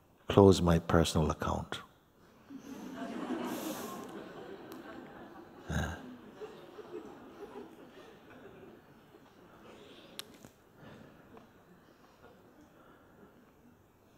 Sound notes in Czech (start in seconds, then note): 2.5 Smích; 6.7 Ticho